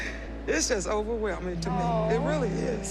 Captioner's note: laughing